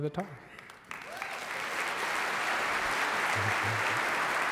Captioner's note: audience applauding